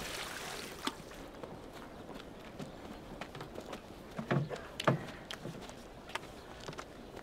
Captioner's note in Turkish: Ayak sesleri